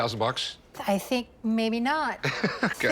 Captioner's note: laughs